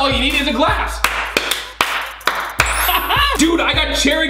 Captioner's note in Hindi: ताली